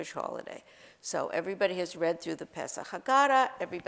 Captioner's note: Hebrew